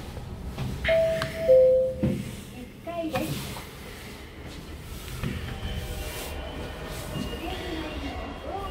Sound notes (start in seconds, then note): 0.9 arrival chime